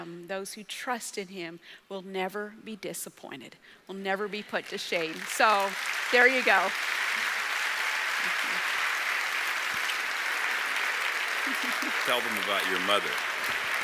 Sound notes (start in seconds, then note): 7.3 audience applauding